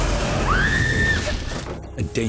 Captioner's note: screams